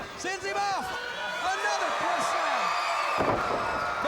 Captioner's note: crowd cheering